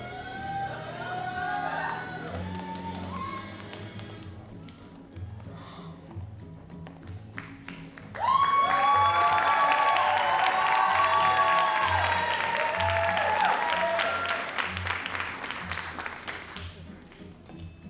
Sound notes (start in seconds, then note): 7.4 audience cheers and applauds